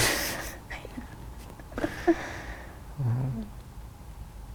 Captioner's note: laughs